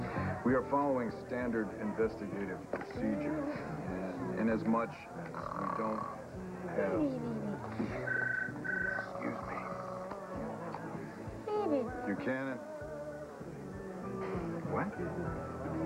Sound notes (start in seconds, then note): 7.2 cassie snores; 8.0 telephone rings